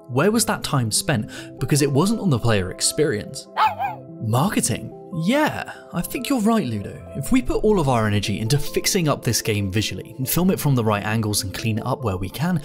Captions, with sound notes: Where was that time spent? Because it wasn't on the player experience. [barking] Marketing? Yeah, I think you're right, Ludo. If we put all of our energy into fixing up this game visually, and film it from the right angles and clean it up where we can,